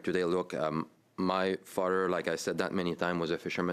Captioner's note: speaking French